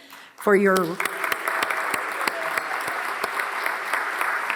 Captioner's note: audience applauds